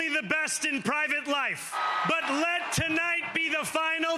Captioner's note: cheers